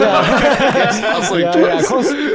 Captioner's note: guys laugh